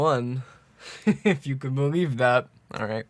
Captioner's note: chuckles